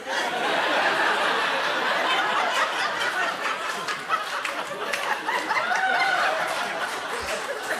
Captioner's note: laughter erupts